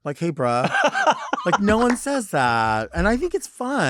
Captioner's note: laughing